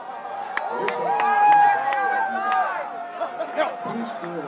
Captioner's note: crowd cheering